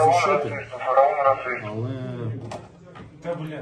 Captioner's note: radio comms call